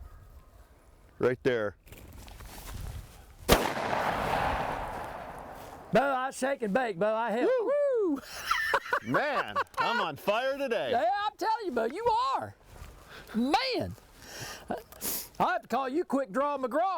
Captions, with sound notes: - Right there. (gun bangs) (laughs) - Man, I'm on fire today. - I'll tell you bud, you are! Man! I'd call you quick draw Mcgraw!